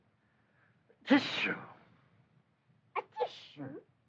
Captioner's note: imitating Sneeze